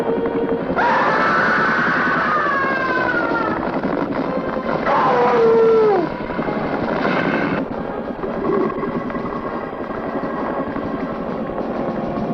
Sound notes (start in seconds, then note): 0.7 Porky screaming; 4.0 dramatic music